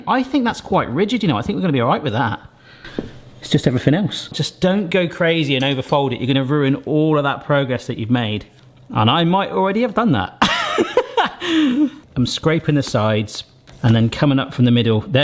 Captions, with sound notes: I think that's quite rigid, you know? I think we're gonna be all right with that. It's just everything else. Just don't go crazy and overfold it you're gonna ruin all of that progress that you've made. And I might already have done that. (laughs) I'm scraping the sides and then coming up from the middle.